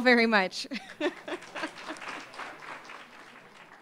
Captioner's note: applause